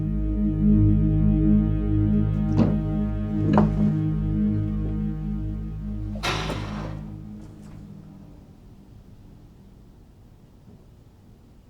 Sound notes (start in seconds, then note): 0.1 eerie music; 5.3 metal door clangs